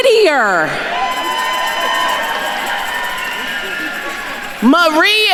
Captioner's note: attendees cheering